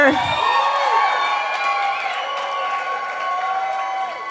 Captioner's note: cheering